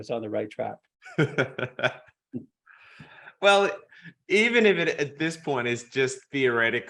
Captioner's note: laughs